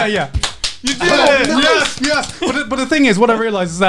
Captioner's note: claps